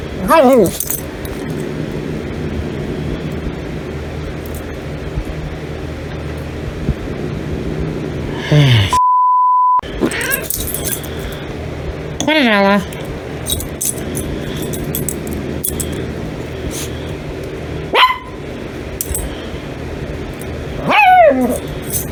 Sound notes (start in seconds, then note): 0.1 Caprice continues growling; 0.1 Ella growls; 10.0 Ella bites Caprice, Caprice meows; 17.8 Ella barks and growls